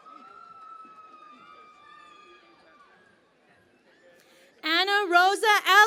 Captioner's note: cheering and Applause